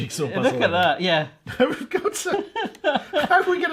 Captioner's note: laughing